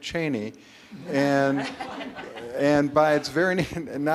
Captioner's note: audience laughter